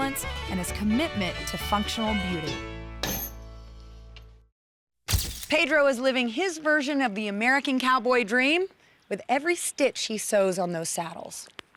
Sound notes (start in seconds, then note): 2.9 stamping